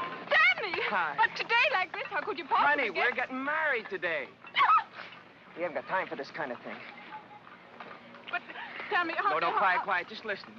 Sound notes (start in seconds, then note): 4.5 Frederica yelps